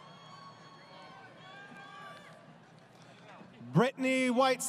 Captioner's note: crowd Cheering